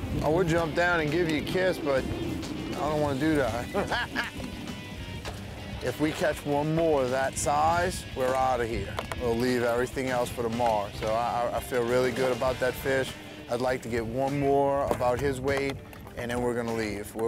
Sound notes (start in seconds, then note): 3.5 both laugh